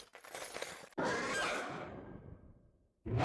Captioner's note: roars